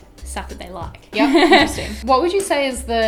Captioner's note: laughs